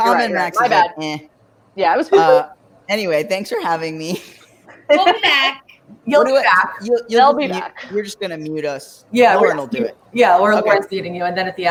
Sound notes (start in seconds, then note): 4.1 laughs